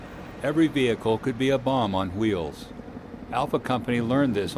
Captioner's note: voiceover